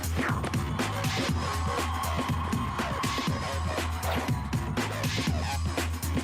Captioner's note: crowd cheering